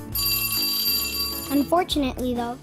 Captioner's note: school bell